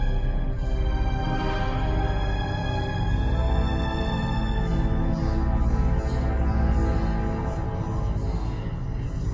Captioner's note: читают заклинание